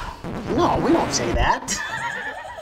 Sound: record scratching; laughing

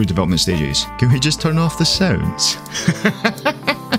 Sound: laughing

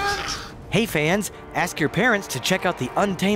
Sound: voiceover

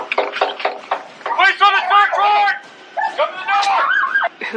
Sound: metal clatters, knock on door

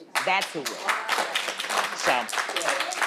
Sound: audience applauding

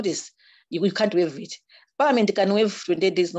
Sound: audio distorts

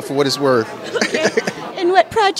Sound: laughter

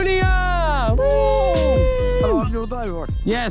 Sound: Ethan and Josh cheering

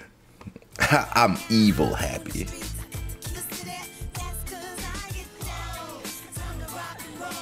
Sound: laugh

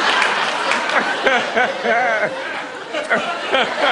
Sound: laughing

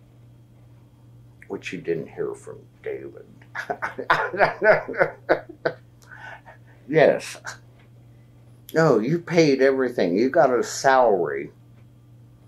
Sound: laughs

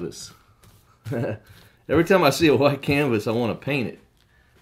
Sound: ha,ha

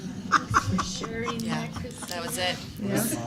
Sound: laughter

